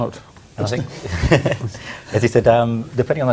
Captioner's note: laughter